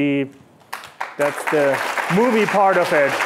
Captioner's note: applause